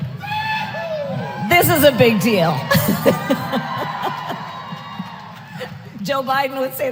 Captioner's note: laughs